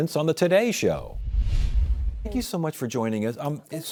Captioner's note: screen whooshing